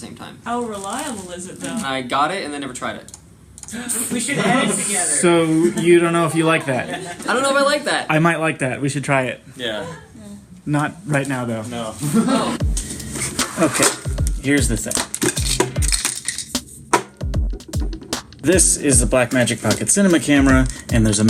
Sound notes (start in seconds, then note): 13.1 items scrape clink; 15.4 items thump on table